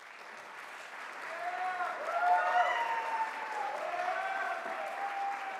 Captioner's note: audience cheers